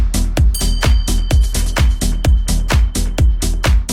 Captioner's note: bell chiming